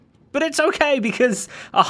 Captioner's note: chuckles